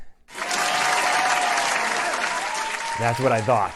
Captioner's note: applause